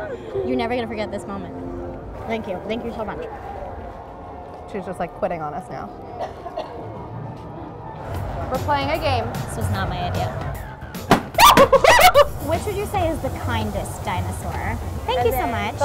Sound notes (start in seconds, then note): 6.1 coughs; 11.4 screams